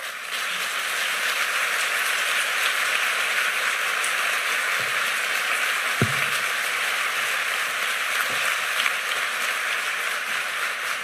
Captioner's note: applause